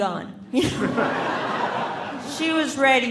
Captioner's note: audience laughing